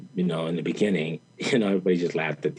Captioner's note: chuckles